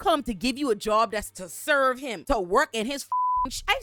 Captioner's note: beep